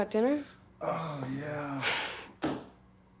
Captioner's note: chuckles